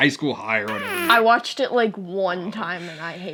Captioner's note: whoopie cushion sound effect